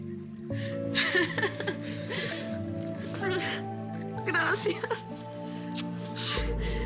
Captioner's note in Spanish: Risas